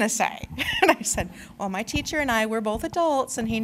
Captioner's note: laughter